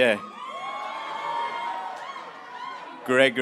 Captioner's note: graduates cheering